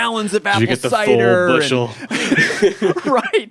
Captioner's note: both laughing